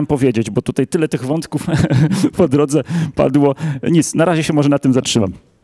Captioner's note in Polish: śmiech